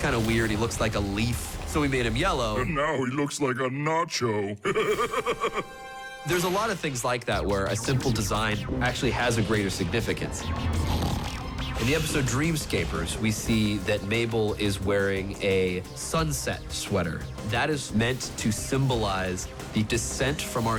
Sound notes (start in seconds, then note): 4.6 laughs; 10.8 snores